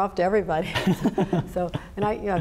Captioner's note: Kathy and Dan chuckling